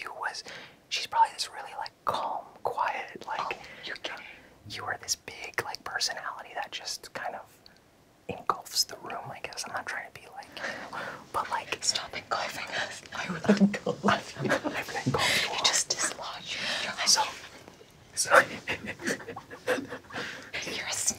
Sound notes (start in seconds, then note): 13.3 laughs; 18.7 everyone laughs